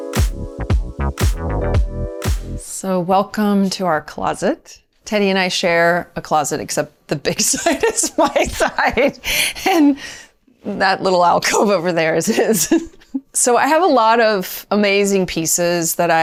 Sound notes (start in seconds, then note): 9.0 laughs